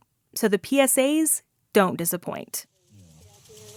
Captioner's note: Soundbite of Las Vegas water PSA